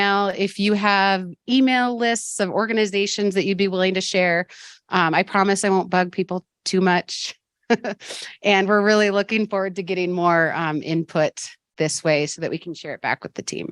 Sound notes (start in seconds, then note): 7.2 laughs